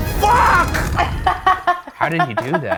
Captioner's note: laughs